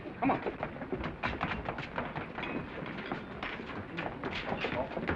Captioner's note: footsteps receding